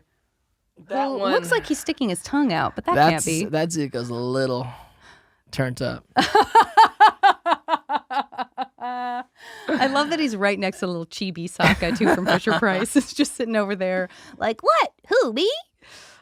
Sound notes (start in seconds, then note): 6.3 laughing